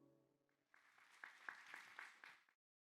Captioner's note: applause